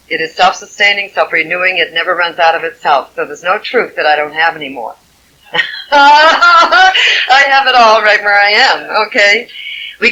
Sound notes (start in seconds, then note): 5.5 laughing